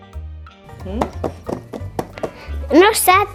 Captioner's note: tap tap tap tap tap tap